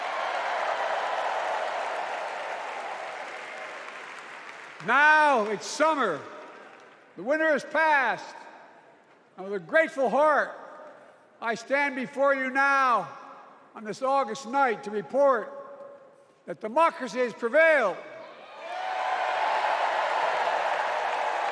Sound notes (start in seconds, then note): 7.7 applause